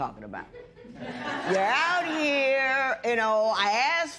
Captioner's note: laughter